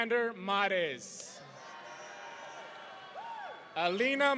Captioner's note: audience cheering